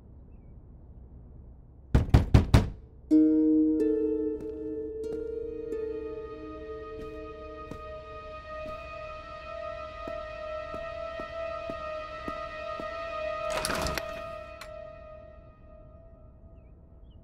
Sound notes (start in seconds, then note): 1.9 door knocks